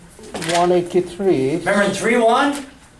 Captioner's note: voiceover